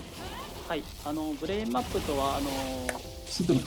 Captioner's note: speaking japanese